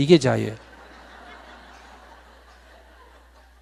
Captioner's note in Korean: 청중 웃음